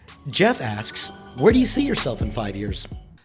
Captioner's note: voiceover